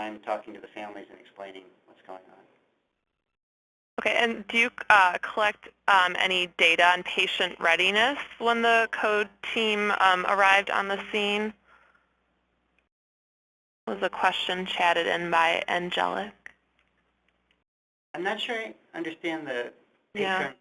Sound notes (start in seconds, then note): 4.3 voiceover; 18.4 voiceover